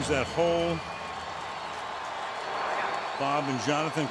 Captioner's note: cheering